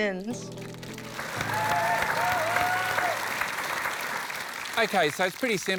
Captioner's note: cheering, applause